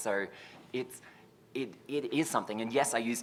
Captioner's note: stutters